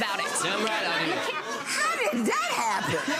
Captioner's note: audience laughing